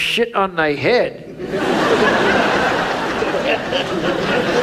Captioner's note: audience laughs